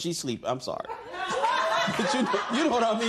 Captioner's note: laughter